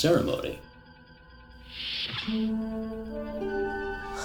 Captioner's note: door opens